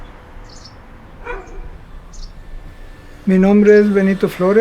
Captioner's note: dog barking, leaf blower